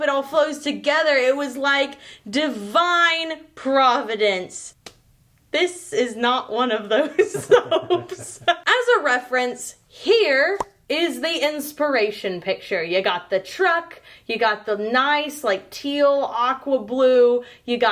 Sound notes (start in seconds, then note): 7.0 laughing